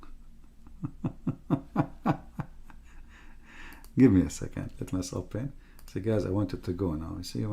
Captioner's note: Ketawa